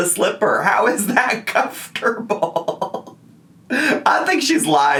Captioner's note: laughing